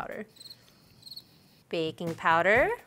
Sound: crickets chirping

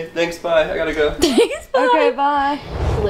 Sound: laughs

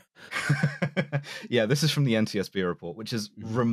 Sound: laughs

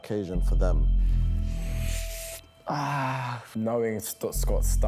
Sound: sighs

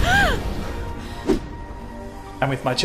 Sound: woman gasping; swooshing sound

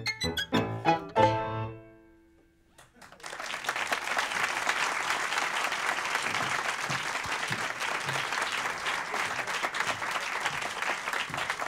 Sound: applause

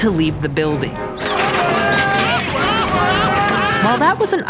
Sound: men screaming

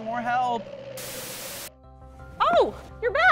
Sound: television static

